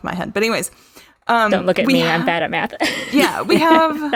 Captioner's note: laughs